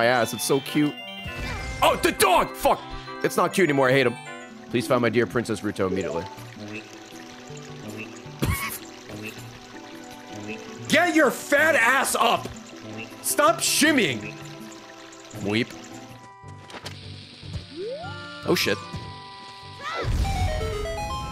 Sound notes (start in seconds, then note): 7.5 laughs; 12.4 frog noise